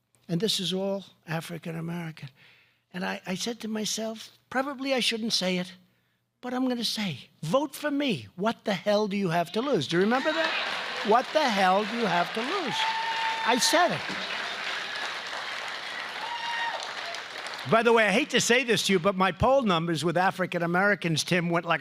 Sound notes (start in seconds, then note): 10.9 applause; 16.1 applause